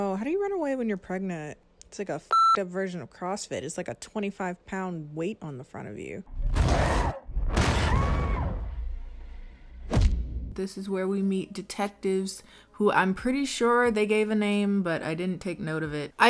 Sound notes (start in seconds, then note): 2.3 beep; 6.2 door pounds; 7.8 screams